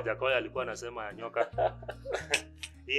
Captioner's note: laughter